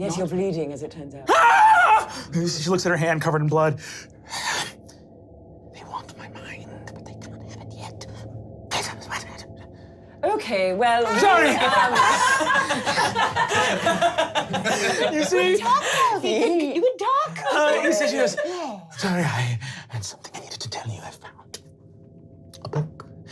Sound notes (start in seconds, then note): 1.2 screaming; 9.1 deranged whispering; 11.0 laughing